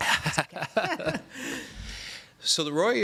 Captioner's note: laughter